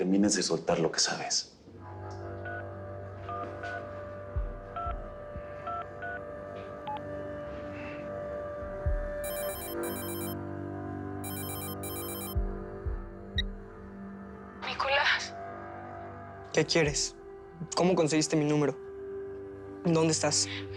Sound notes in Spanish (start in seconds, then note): 3.6 Sonido al marcar; 9.2 Suena el celular